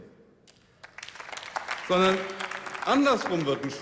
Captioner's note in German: Beifall